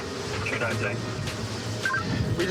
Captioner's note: radio communication